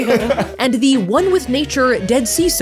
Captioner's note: laughing